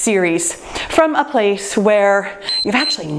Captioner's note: timer beeps